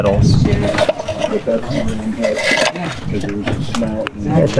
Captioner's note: metal clanking